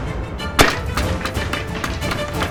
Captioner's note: stomping sticks